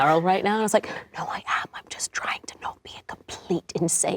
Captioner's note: whispering